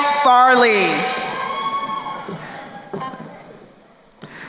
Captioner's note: crowd cheering